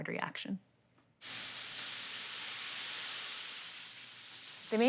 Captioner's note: sizzling